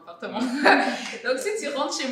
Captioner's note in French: rires